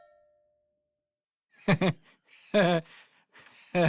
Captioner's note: laughing